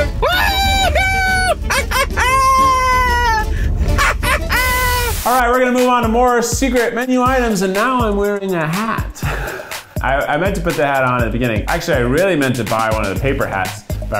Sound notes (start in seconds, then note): 0.6 laughs; 9.4 laughs